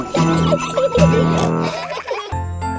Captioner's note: children giggling; peppa snorts